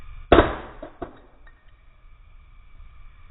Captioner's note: slowed down thudding